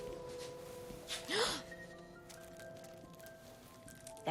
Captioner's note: gasping